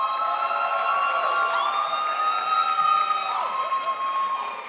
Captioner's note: crowd applauds